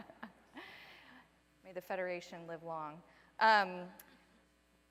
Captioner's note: laughter